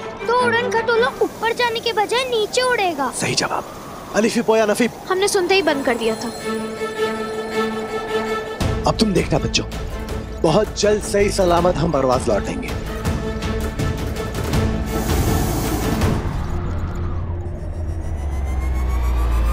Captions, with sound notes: the hot air balloon will go down instead of going up. Precisely. Alifi, Poya, Nafi. We stopped the moment we heard you. Kids, you'll see now. We will land safe and sound in Parvaz very soon. [air fizzling]